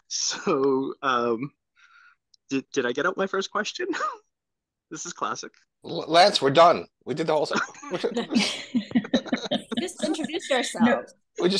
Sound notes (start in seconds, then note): 7.4 laugh